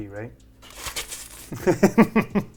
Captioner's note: slurping; laughing